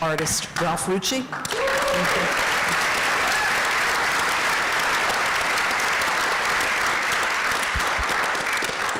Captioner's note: applause